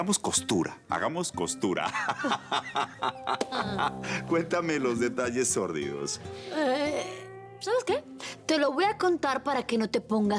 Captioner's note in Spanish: Risas